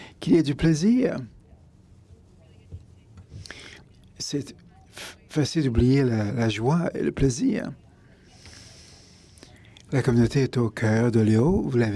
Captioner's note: french feed continues